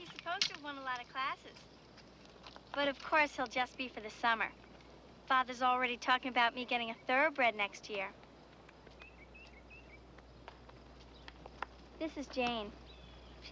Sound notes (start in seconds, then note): none